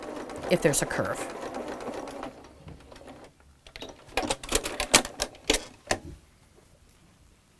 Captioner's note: sewing Machine Sounds